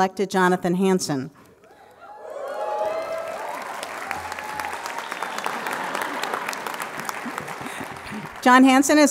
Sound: applause

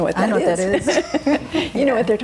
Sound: laughing

